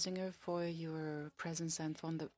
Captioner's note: speaking French